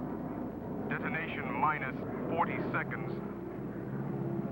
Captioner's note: man On Radio